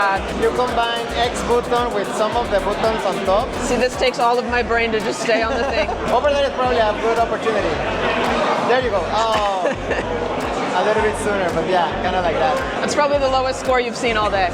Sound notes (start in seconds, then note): 5.4 host laughing; 9.4 laughs